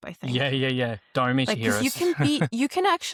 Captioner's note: laughs